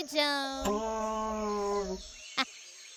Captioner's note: T. rex bellowing